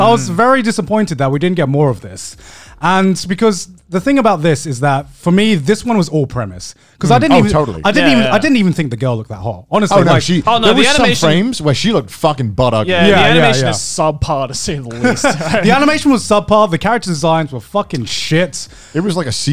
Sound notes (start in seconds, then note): 10.6 murmurs